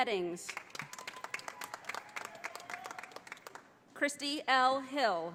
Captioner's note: audience applauding